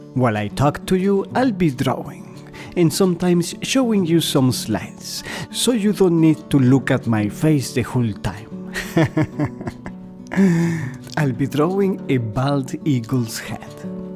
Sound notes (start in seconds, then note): 8.7 laugher